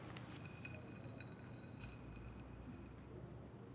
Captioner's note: saltshaker thudding; egg scratching